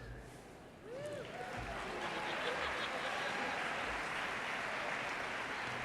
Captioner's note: audience cheers and applauds